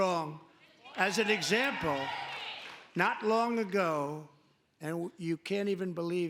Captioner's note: cheering